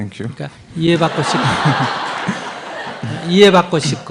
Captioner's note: audience laughter